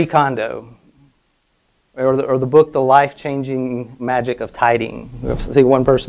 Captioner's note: murmuring